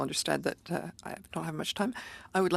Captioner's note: speaking French